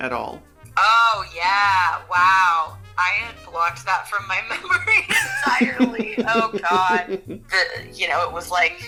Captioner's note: laughter